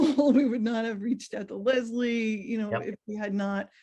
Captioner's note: laugh